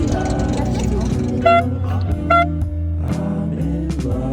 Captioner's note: air horn sound; background music